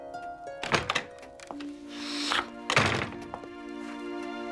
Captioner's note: door opens and closes